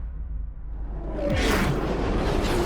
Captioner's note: sound of a missle launch